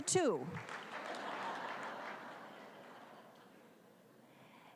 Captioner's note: applause